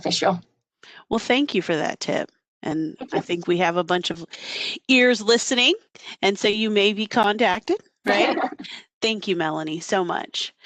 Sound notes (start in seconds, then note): 8.1 laughter